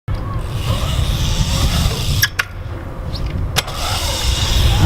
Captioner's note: bike gears whirring